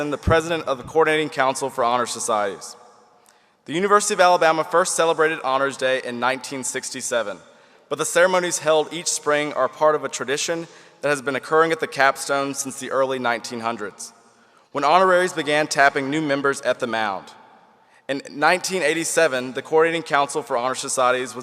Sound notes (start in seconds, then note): none